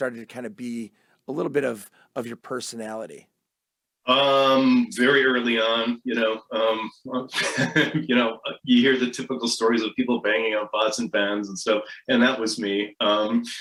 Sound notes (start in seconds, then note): 7.1 laughs